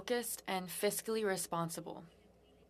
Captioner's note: speaking French